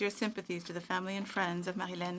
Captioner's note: speaking French